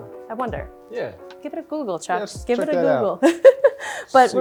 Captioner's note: laughs